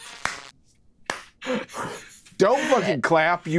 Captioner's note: laughs; Brennan claps hands